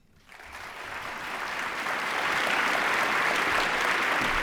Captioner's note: applause